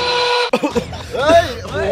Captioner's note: coughs